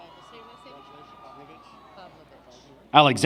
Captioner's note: applause